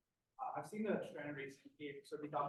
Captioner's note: speaks faintly